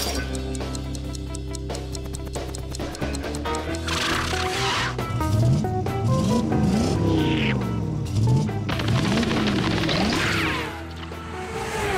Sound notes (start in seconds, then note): 6.1 engine revving